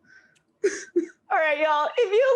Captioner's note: laughs